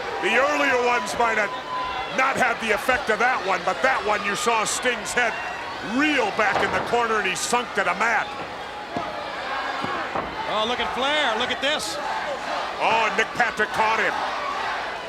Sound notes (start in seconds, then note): 9.0 countdown thudding